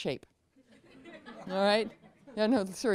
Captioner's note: laughter